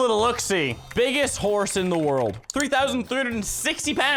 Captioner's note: typing